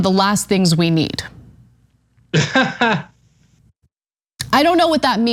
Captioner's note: laugh